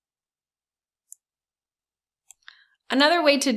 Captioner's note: mouse clicking